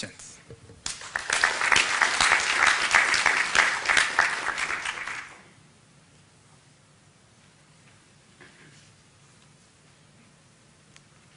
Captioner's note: applause